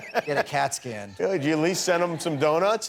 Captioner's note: laughing